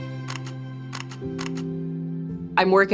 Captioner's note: camera shutter clicking